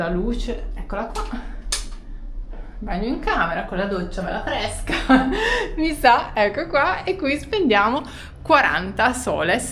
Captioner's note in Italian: risate